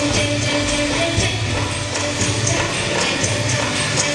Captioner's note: none